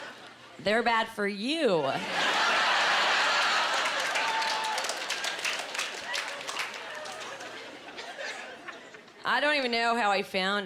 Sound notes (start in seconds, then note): 1.8 laughing